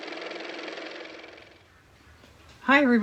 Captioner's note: car motor